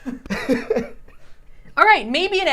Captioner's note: laughs